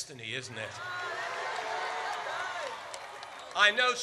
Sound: audience cheers

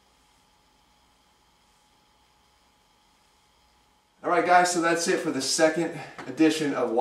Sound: pause

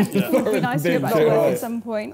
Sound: laughing

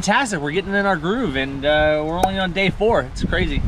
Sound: pop sound

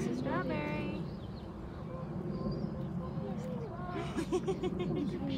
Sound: laughter

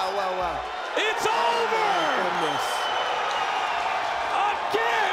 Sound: crowd cheering

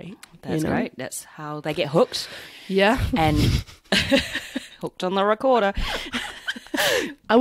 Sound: laughter

